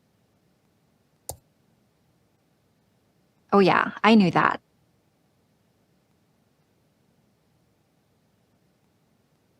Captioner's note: mouse click